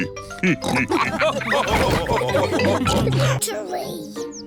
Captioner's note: all laugh